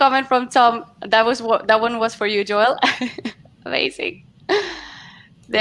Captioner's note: laughs